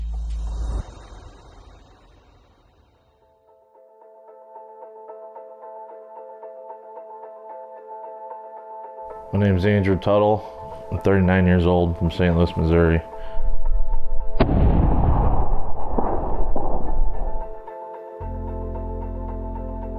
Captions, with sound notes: My name is Andrew Tuttle. I'm 39 years old from Saint Louis, Missouri. (gunshot)